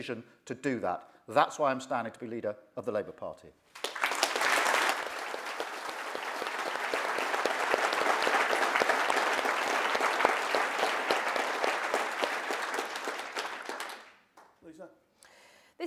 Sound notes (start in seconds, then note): 10.5 applause